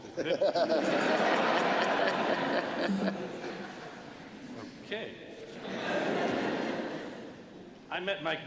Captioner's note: laughter